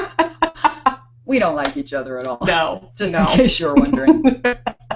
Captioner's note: laughing